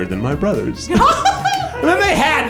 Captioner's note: laughs